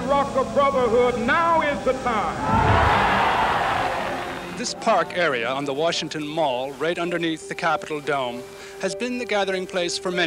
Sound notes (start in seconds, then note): 2.4 cheering